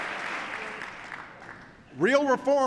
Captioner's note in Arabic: تصفيق